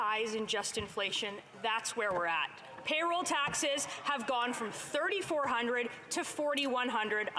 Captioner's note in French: voix de l'interprète